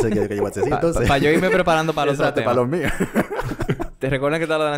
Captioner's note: laughs